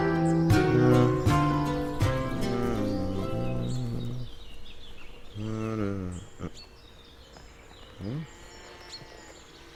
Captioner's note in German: Summen